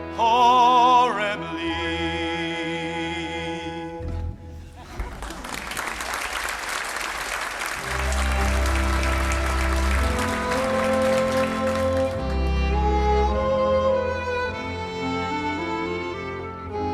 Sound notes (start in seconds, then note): 4.8 audience applauding; 11.6 gentle orchestral music